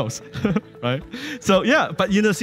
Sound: laughing

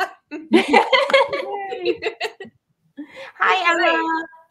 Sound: laughs

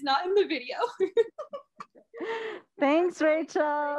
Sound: laughs

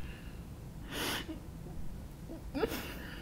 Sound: crying

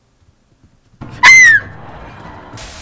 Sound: another scream

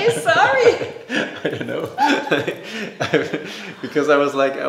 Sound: both laughing

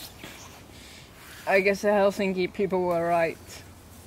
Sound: none

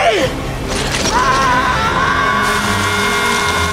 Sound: screaming

